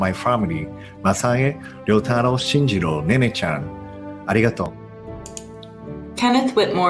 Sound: non-english speech

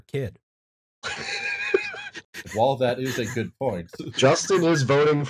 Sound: laughter

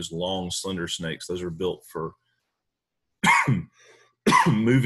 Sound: coughing

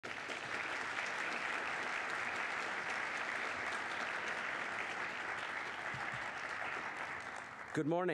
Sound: applause

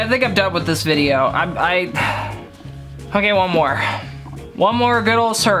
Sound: sighs

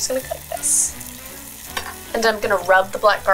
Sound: waffle iron sizzling

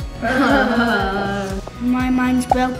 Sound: both laugh

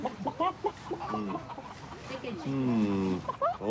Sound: chickens clucking

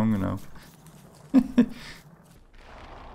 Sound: laughs

